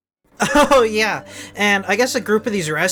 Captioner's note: laughing